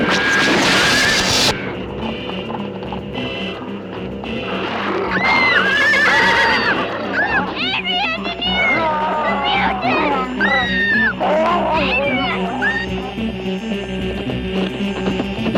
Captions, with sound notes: (zapping) (dramatic music) (screaming) Adriann, Deneer! The mutants! (screaming) Adriann! (dramatic music)